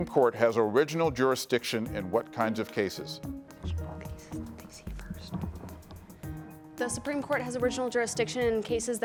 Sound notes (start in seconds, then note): 4.5 team whispers